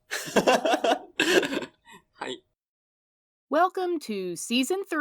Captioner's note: yuzu laughing